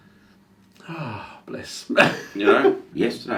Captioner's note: laughs